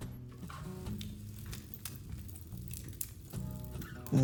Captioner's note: fire cracking sound